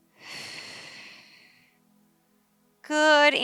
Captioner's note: sharp exhaling